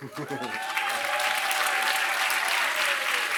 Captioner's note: applause